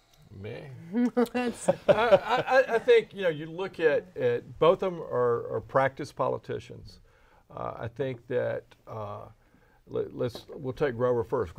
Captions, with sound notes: - Okay. (laughing) I think you look at both of them are practiced politicians. I think that, let's, we'll take Grover first.